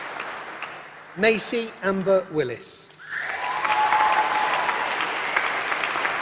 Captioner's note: applause